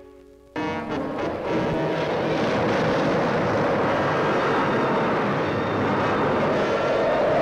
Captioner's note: dramatic orchestral music; wind whooshes